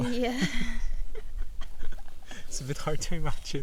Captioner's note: laughter